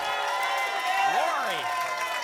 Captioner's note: applause